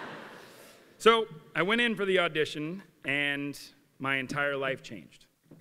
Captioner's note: laughter